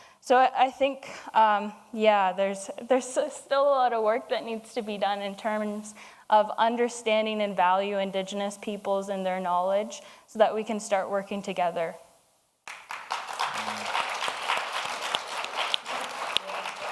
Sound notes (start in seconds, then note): 12.6 audience applauds